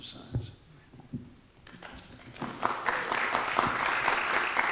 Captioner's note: audience applauding